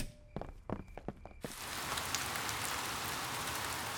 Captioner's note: rain pattering